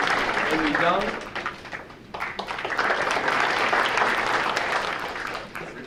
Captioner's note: audience applauding